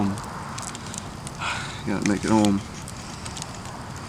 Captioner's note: sighs